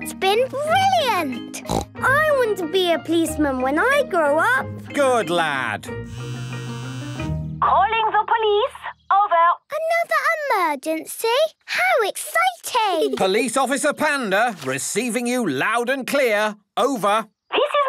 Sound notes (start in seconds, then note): 1.6 snort; 6.2 phone ringing